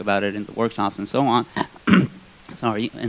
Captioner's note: clears throat